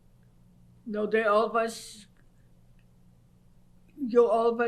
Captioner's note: pauses for 3 seconds